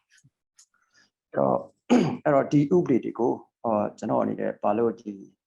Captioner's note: speaking burmese